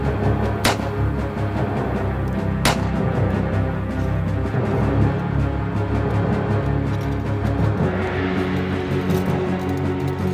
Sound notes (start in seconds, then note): 0.9 gunshots cracking